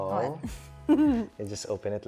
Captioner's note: giggles